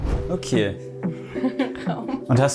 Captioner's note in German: lacht